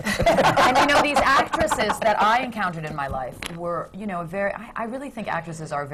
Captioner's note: laughter